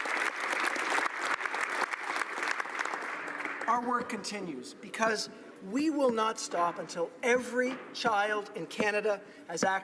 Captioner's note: applause